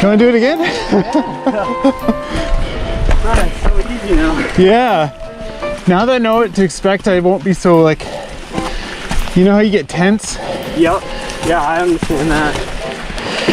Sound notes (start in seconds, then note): 2.1 both gently laughing